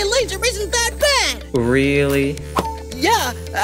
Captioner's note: Beep plays as Lollipop presses the screen